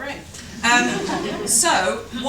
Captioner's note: laughter